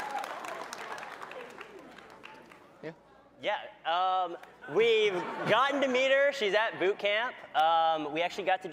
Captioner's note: cheering; applause